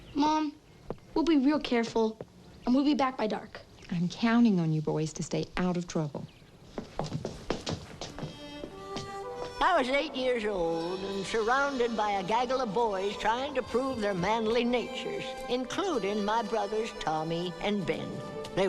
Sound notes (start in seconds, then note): 6.6 feet pattering; 8.5 wistful folksy music